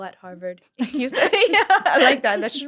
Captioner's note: laughter